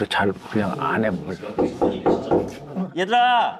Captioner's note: knocks boldly